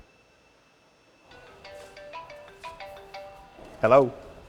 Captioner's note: cell phone rings; on phone